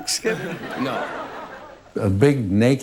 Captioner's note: audience laughs